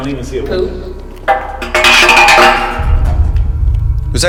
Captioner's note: clattering